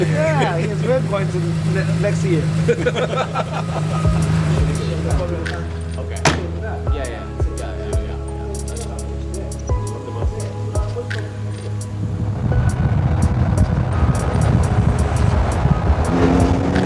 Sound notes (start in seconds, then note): 2.9 men laughing; 5.9 indistinct conversation; 13.2 car whooshing; 16.6 engine revving